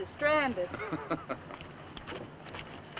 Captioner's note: chuckles